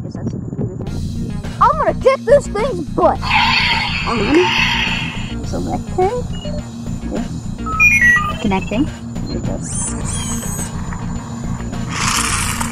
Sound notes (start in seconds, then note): 3.1 engine revving; 7.6 computer trilling; 9.1 mechanical whirring; 11.8 wheels scraping